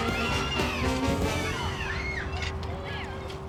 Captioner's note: <i> all yelling</i>